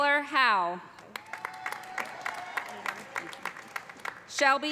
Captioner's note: cheers and applause